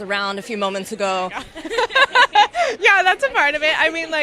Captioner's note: laughs